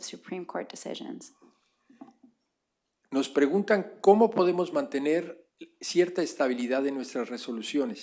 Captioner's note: spanish